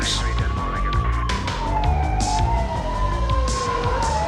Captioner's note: sirens wail